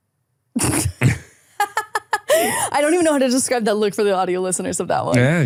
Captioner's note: laughs